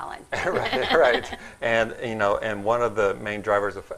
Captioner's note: laughing